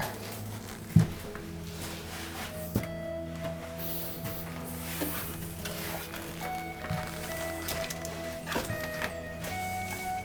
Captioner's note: shuffling through stuff